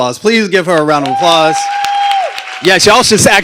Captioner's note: cheering and applause